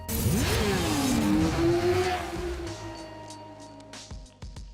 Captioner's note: motorbike engine roaring